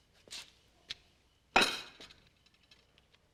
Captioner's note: slams down plate